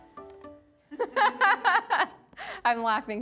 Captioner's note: laughing